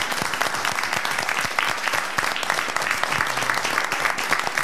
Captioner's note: all applauding